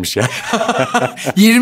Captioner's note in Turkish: Gülüyorlar